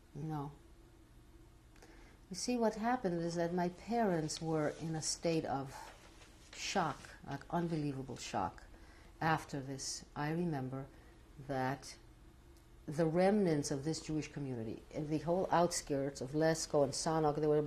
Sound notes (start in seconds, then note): none